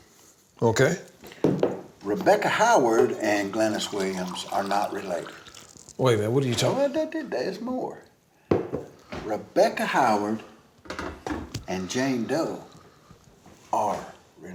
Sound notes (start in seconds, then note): 6.5 tutting